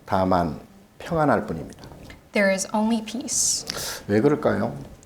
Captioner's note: speaking Korean